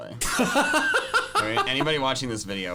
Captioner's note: laughing